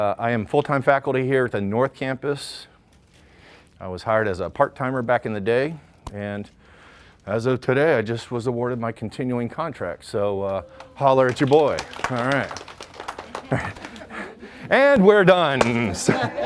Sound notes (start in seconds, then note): 12.9 applause